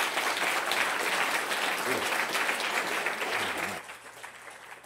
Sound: applause

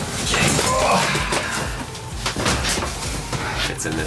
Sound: grunts

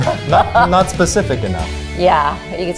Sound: laughs

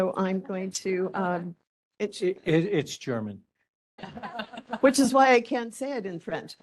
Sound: laughing

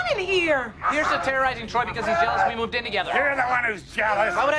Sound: TROY is still screaming

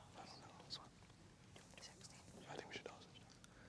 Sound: whispering

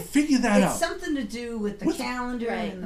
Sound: voiceover

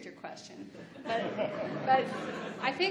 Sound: laughs

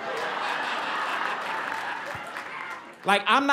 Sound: laughter, applause

